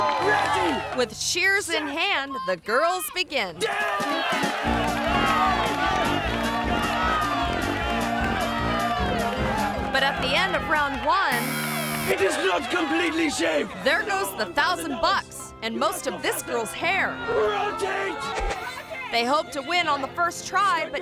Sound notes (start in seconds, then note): 0.0 audience cheering; 3.9 crowd cheering